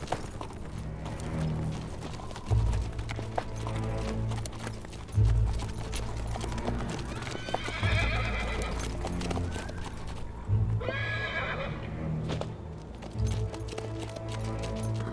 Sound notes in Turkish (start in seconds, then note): 0.2 Gerilim müziği; 7.4 At kişniyor; 11.9 Gerilim müziği